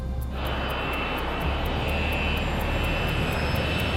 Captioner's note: plane sounds